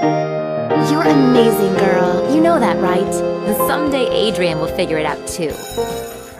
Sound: daydreamy/romantic music; school bell

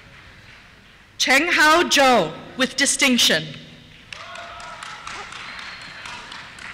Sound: cheers

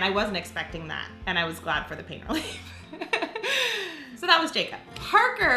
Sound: laughs

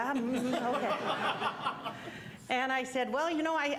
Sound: audience laughing

